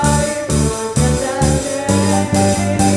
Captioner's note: none